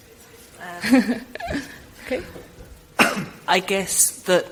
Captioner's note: laughs